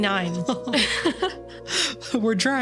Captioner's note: both laughing